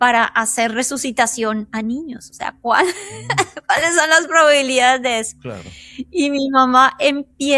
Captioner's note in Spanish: risas